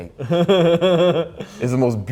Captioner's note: laughs